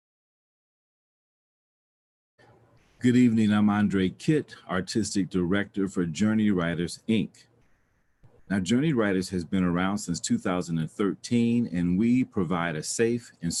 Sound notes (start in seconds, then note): none